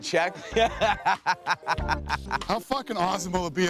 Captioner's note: laughs